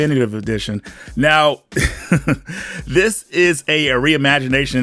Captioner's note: chuckles